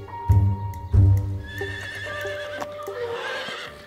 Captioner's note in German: Wiehern